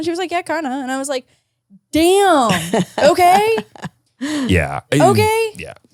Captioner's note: laughs